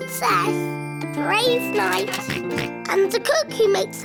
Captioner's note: oinks